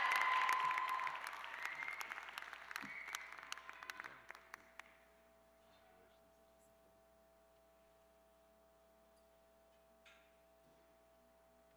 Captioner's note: cheers and applause